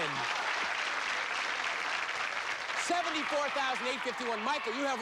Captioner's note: cheers and applause